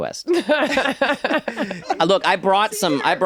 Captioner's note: laughing